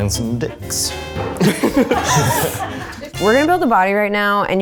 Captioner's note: all laugh